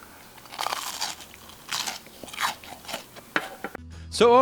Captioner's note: loud crunching